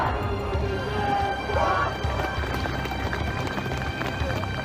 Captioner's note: crowd applauds